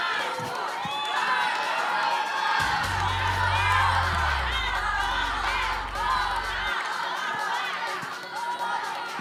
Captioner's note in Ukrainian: оплески